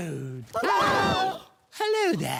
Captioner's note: screaming